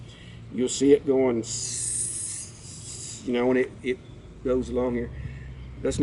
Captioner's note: hisses